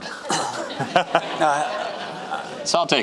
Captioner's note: audience laughing